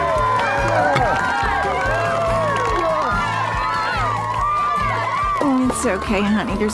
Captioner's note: cheering, applause